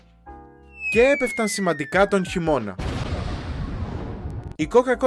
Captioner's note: explosion